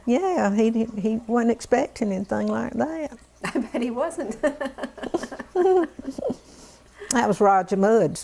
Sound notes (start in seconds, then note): 4.3 laughter